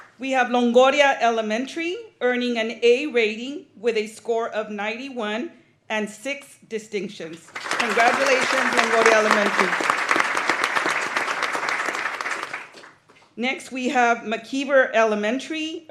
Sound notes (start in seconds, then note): 10.1 applause